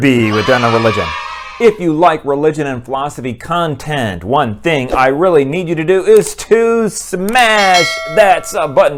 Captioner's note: kids cheering; bell